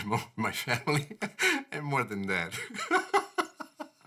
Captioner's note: laughs